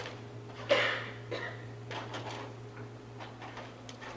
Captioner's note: student coughing